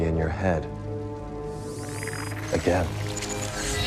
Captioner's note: whirring